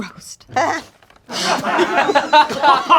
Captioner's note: crowd laughing; laughing